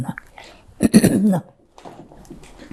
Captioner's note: clears throat